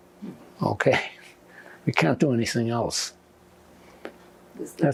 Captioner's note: laughing